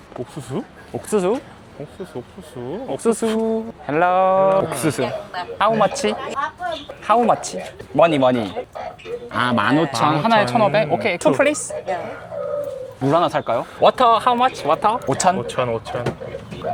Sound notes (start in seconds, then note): 4.6 Korean